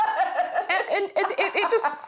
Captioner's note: laughing